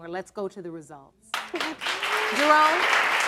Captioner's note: audience applauding